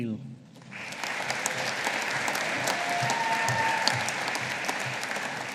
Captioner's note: audience applauding